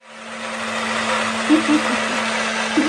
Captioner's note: blender whirs; chuckles